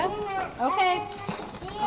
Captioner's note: children chattering